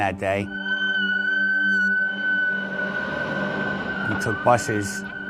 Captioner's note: fire engine siren